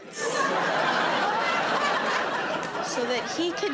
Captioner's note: audience laughing